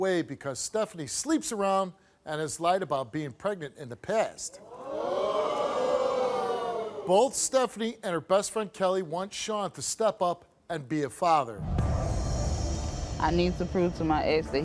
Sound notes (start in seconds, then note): 4.5 crowd